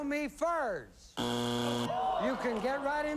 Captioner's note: buzzer